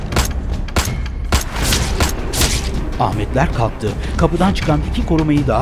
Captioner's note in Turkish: Silah sesleri